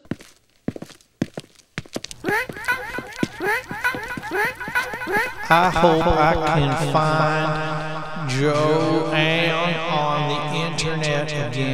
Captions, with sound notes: [footsteps] [bird squawks] I hope I can find Joanne on the internet again...